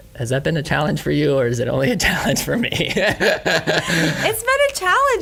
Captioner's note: laughs